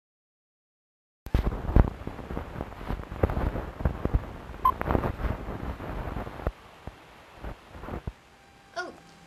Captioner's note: television crackling